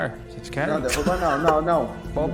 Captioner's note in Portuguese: Risadas